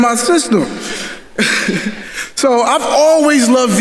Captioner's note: chuckles